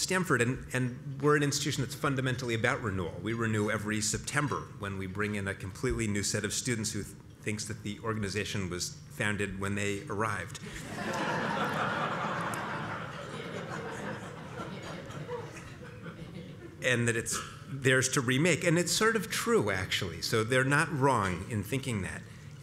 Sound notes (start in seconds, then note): 10.8 laugh